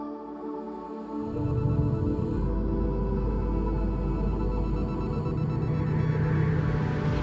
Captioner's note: ethereal music; beeping